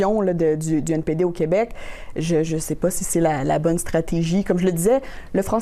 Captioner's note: speaking French